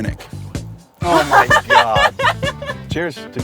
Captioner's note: laughs